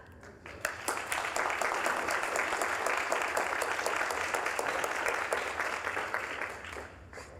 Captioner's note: applause